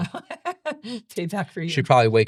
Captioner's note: laughing